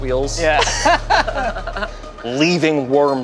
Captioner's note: group laughs